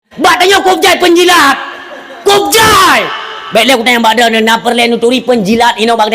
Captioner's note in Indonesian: berteriak